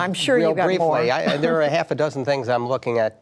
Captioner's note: laughter